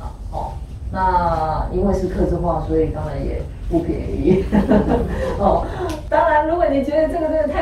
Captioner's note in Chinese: 笑聲